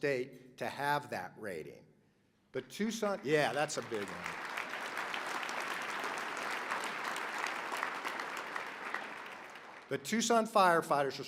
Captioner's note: applause